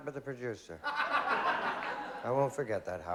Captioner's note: laughter